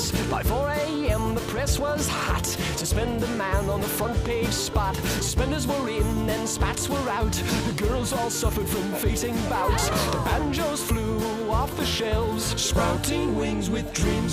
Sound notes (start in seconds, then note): 9.5 fainting noises